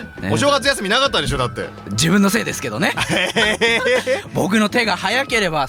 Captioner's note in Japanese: 笑い